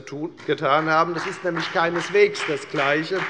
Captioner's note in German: Beifall bei der FDP